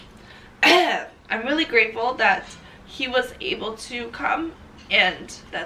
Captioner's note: clears throat